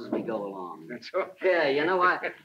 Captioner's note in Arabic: يضحك